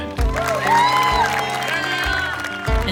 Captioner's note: family applauds